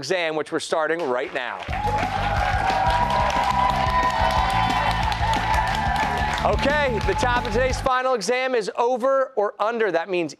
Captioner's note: cheers and applause